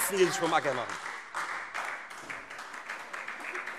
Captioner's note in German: Beifall Freie Demokraten